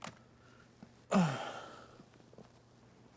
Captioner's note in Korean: 신음 소리